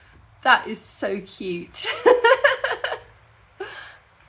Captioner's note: laughing